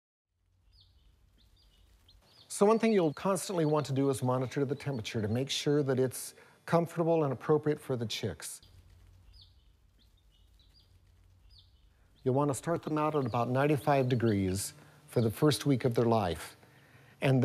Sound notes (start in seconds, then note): 8.6 pause